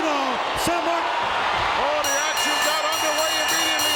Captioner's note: bell ringing